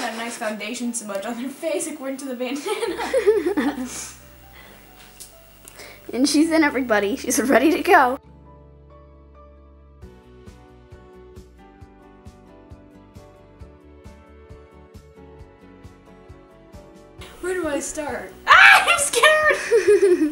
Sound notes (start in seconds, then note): 2.5 laughs; 9.4 light instrumental music; 20.0 laughs